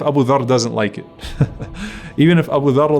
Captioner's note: narrator chuckles